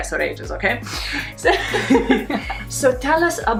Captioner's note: laughing